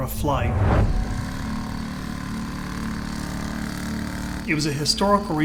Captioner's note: plane propeller whirs